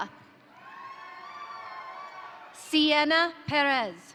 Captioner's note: crowd cheering; crowd applauding